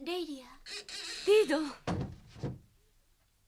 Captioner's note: SFX: door closed